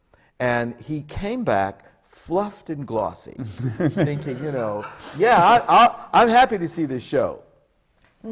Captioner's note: laughter